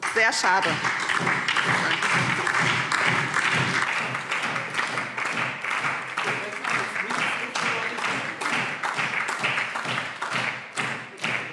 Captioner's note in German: Lebhafter Beifall SPD - Beifall DIE LINKE